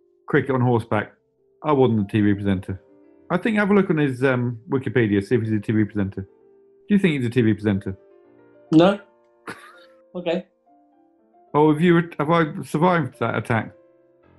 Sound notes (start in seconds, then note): 9.3 sniggering